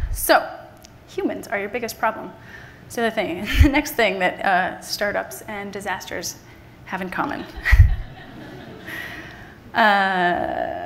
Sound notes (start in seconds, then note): 7.4 everyone laughs